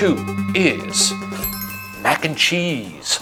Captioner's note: bells chime